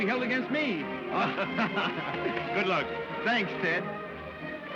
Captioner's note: laughs